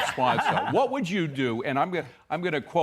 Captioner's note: laughter